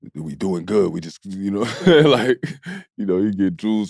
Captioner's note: laughs